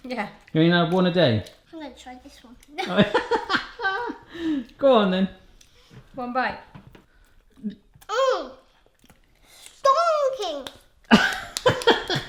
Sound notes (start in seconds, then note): 2.8 laughs; 11.1 laughs